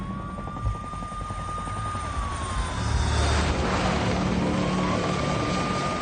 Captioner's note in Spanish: Sonido de las sirenas